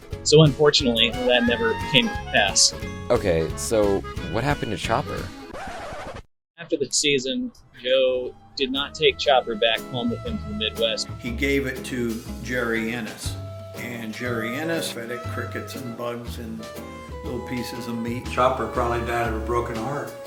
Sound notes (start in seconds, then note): 5.4 record Scratch